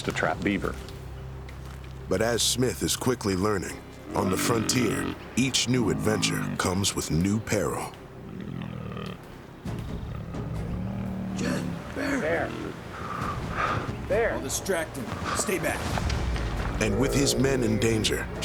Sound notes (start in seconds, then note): 9.6 bear growls nearby